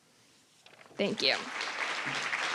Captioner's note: applause